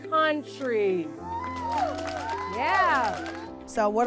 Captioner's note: applause